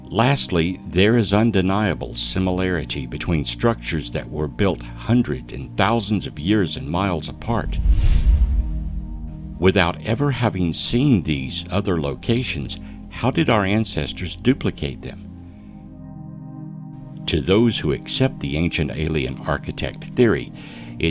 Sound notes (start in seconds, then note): 7.5 air whooshing